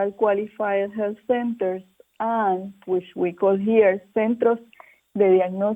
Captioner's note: foreign language spoken